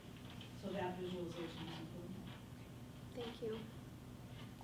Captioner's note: faintly speaking